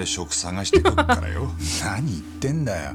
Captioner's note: chuckles